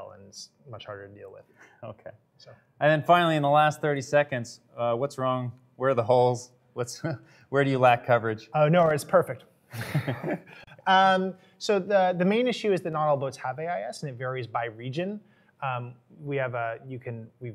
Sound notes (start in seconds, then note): 9.7 chuckling